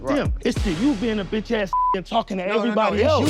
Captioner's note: beep